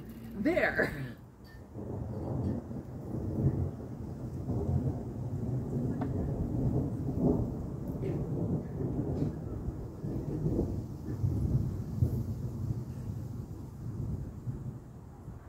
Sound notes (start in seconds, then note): 0.4 laughs; 1.6 thunder rumbles